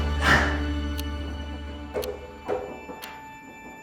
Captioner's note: sound of clock ticking